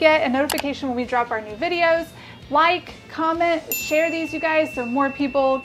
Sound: mouse clicking sound; bell ringing sound

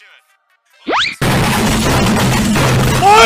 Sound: computer destruction sounds

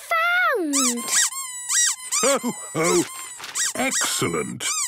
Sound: squeaking

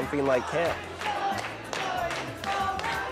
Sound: chanting

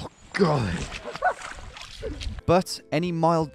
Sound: laughing

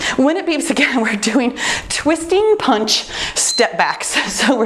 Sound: timer beeps

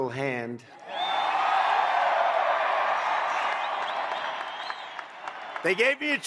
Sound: applause

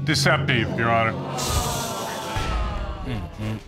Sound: audience groans

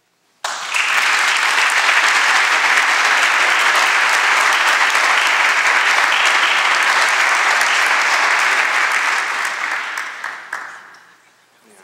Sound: applause

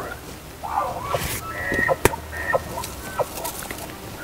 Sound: elk Bugles Closer

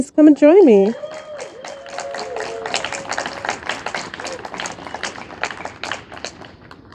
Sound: audience applauding and cheering

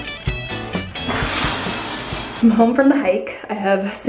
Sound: water pouring

